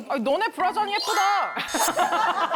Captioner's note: jealous sound effect